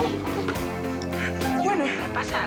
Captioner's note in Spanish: suena un teléfono